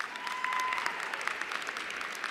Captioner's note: cheers and applause